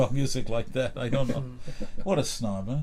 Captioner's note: laughs